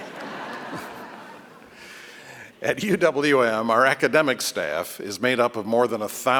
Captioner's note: laughter